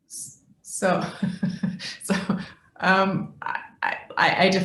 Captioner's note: chuckling